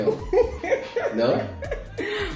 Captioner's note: laughing